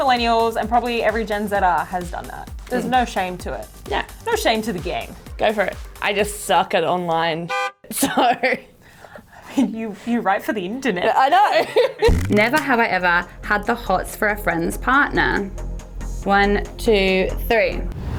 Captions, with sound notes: - Most millennials and probably every gen zer has done that. There's no shame to it. - Yeah. - No shame to the game. - Go for it, I just suck at online (horn) so (laughing). - I mean, you write for the internet. - Yeah, I know (laughing)! - Never have I ever had the hots for a friend's partner. One, two, three!